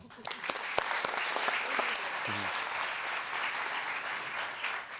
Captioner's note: audience applauds